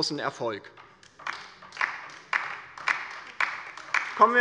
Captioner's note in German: Beifall bei der LINKEN